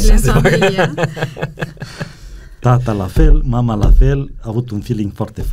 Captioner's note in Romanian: Râsete